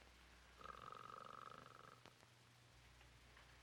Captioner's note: Murdock snores